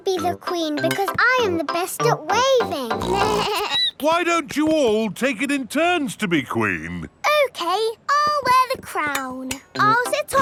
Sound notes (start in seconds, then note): 2.9 snorts; 3.0 bleats